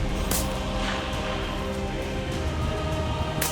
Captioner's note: gunshot